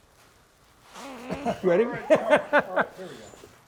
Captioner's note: grunts; laughing loudly